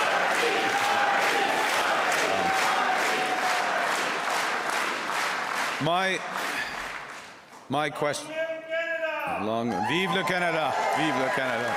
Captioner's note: cheers and Applause; chanting